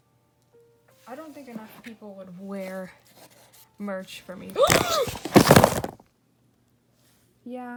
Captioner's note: gasps and crashing